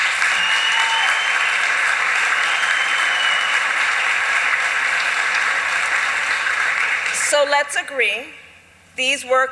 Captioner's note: applause